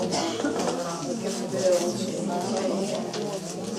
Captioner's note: group chattering